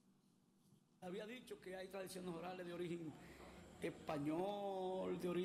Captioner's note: speaking foreign language